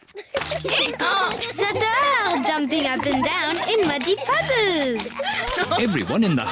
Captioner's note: brays